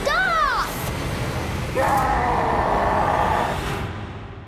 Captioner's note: demonic scream